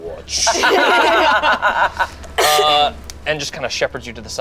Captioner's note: group laughs